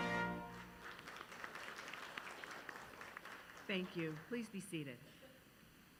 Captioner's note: applause